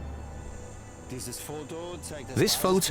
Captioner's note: speaking German